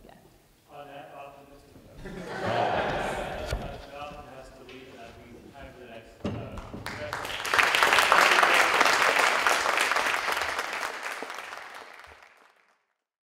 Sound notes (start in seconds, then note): 2.0 laughter; 6.6 applause